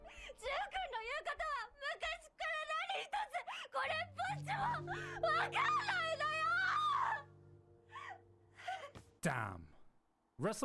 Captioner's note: speaking in foreign language